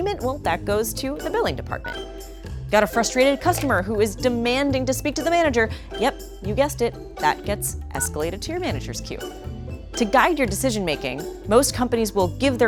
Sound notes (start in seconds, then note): 2.8 phone rings; 3.5 button beeps; 8.0 button beeps